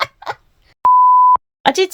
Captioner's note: laughs; beeeeps